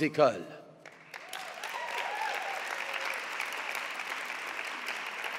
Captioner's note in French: Applaudissements